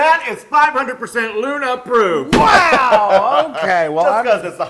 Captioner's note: laugh